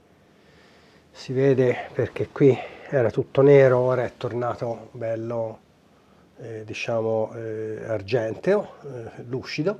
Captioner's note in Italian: sbuffare